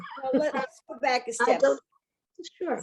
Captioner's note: laughs